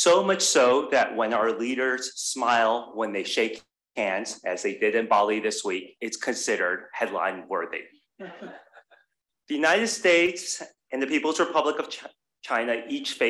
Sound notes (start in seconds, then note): 8.2 crowd laughs